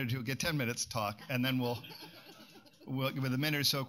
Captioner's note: laughter